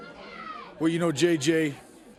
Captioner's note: crowd chatter